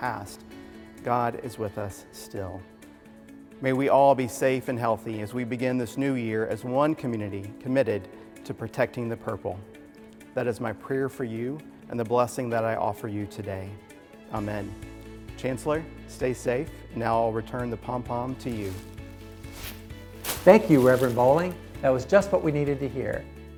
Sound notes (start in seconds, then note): 18.4 pompom crunches